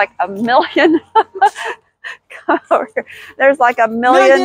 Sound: laughing

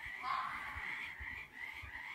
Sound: animal screams

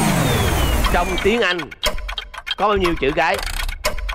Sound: Tiếng Anh

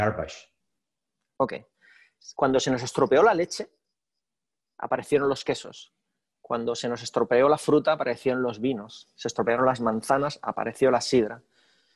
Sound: speaking spanish

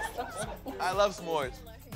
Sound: laughing

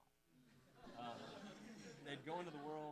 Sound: audience laughing

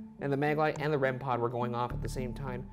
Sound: none

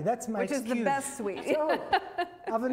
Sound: laughs

